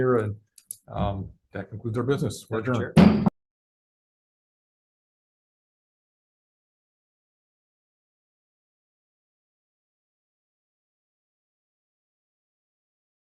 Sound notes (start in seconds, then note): 2.8 gavel bangs